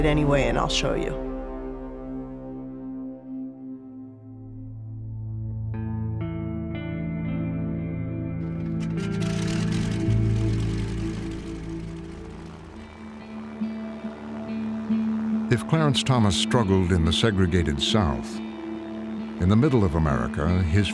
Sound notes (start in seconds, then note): 10.0 single-engine plane starting up